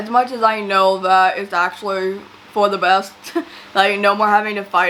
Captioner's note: laughs